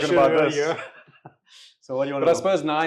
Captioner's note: laughing